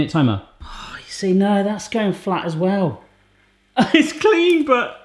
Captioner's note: sighs; laughs